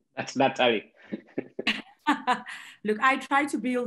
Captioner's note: laughing